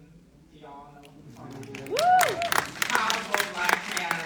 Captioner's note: audience applauding